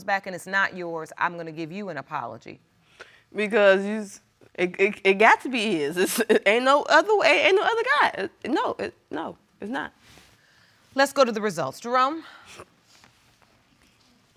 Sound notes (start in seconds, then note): 4.3 stammers; 5.9 laughs